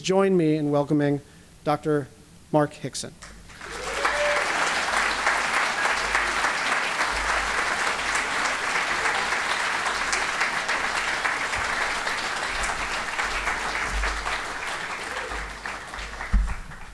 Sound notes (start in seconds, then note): 3.4 applause